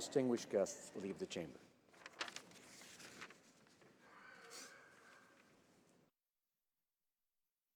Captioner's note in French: voix de l'interprte